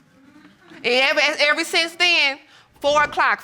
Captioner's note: stammers